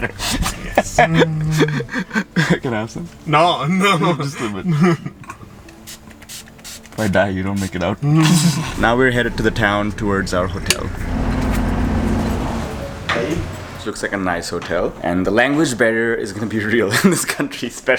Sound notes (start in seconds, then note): 0.0 laughs; 8.0 laughs